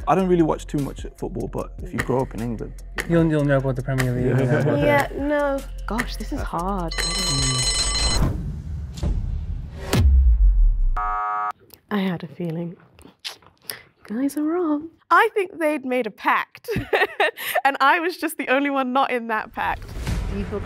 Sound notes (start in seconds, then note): 3.4 ticking; 6.9 bell Rings; 11.0 buzzer; 16.7 laughing